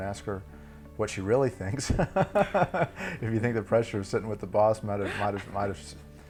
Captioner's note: laugh